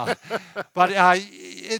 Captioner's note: laughing